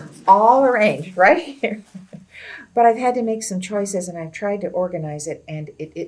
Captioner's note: laughs